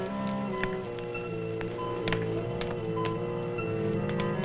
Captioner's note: suspenseful orchestral music; fire crackles